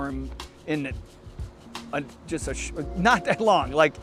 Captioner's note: laughs